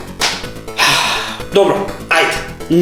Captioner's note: sigh